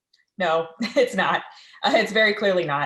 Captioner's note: chuckles